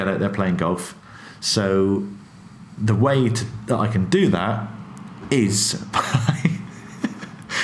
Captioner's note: laughs